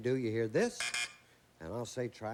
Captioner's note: buzz buzz